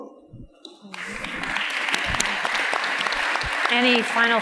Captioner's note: audience applauds